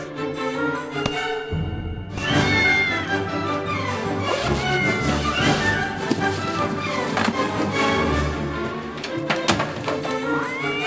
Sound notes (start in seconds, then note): 2.3 meowing